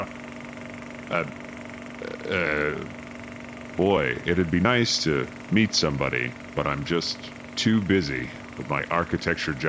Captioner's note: reads in a monotone